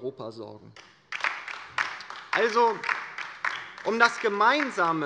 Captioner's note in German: Beifall bei der LINKEN